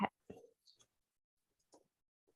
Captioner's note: keyboard clicks